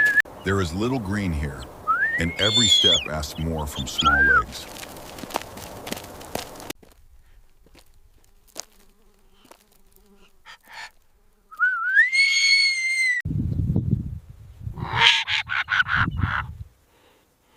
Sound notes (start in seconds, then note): 4.7 groaning